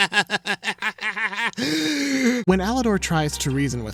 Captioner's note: laughing maniacally; inhales sharply